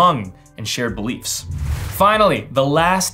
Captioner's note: soft whoosh